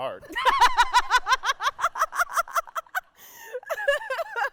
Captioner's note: laughing